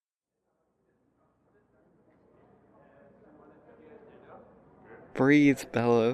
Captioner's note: quiet chatter fades in